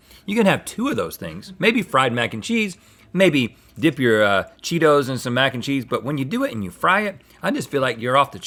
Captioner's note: none